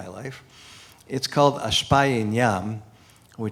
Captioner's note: non-english speech